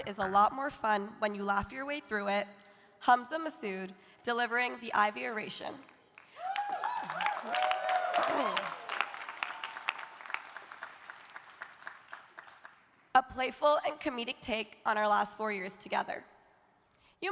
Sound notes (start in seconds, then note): 6.1 audience applauding; 6.3 audience cheering